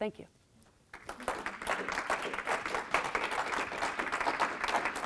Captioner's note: audience applauds